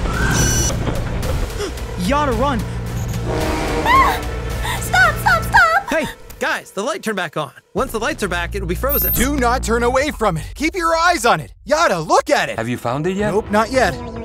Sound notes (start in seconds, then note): 1.8 gasps; 3.8 screams